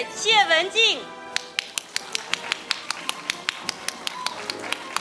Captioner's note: audience applauding